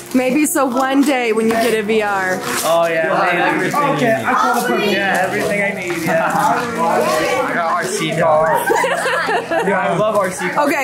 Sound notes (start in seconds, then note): 6.5 laughs; 7.4 family chatters excitedly; 8.5 laughs